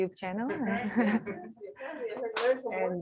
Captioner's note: chuckles